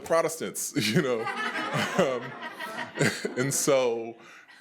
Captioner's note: attendees laughing